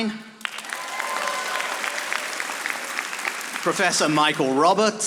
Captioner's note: audience applauding